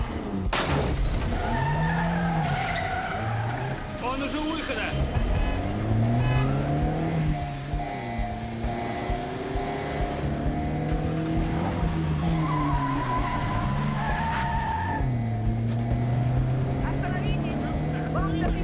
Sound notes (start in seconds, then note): 0.4 tires screech; 4.1 horn honking; 10.0 engine turns over